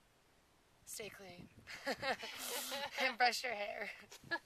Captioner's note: laughs